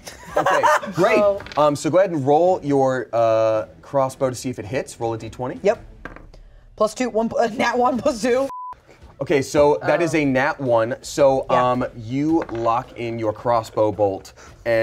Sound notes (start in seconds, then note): 8.4 beep